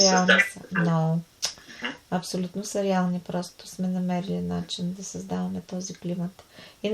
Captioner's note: laughs